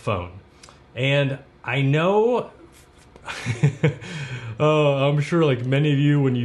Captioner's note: chuckles